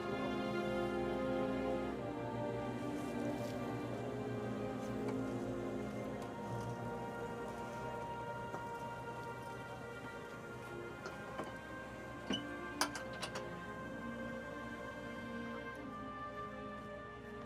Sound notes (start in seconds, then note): 12.8 latch clangs